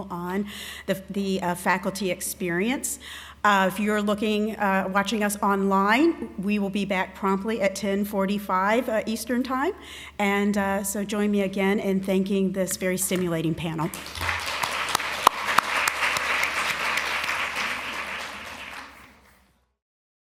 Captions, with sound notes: on the faculty experience. If you're watching us online, we will be back promptly at 10:45 Eastern time. And so join me again in thanking this very stimulating panel. [APPLAUSE]